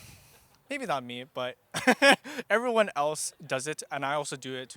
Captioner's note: laughs